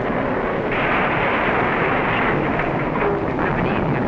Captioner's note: car crashing